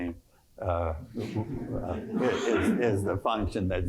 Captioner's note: laughter